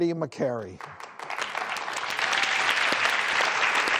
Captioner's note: clapping